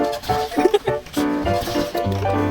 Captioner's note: laughing behind camera